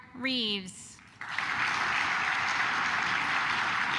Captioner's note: claps